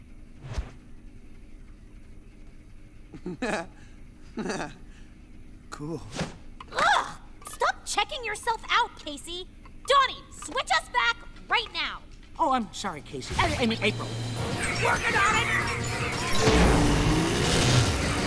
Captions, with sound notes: [chuckling] Cool. Ugh, stop checking yourself out Casey! Donnie, switch us back right now. Oh, I'm sorry Casey, I mean April. Working on it!